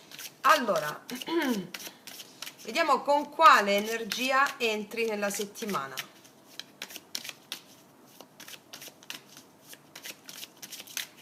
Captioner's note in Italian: schiarire la voce